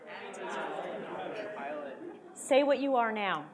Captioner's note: audience responds